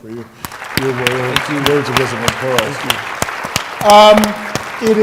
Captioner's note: applause